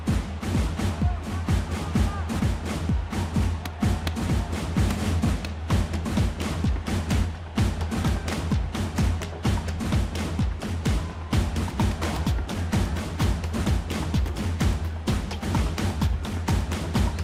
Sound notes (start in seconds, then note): 1.7 punches landing